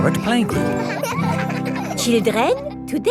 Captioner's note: children laughing